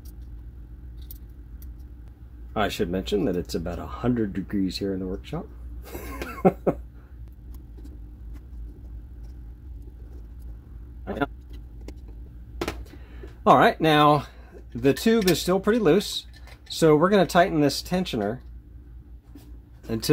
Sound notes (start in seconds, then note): 5.9 laughs from heat exhaustion